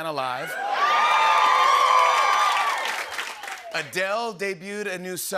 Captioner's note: cheers and applause